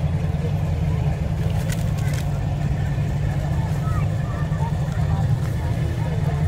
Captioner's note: revving and chattering continue